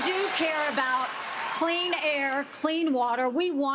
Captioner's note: cheers and applause